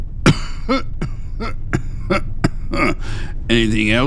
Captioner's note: cough